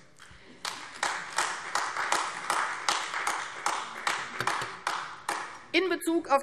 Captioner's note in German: Beifall AfD